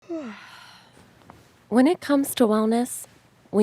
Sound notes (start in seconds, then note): 0.0 woman yawns